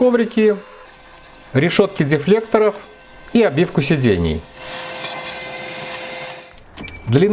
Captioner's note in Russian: шум мотора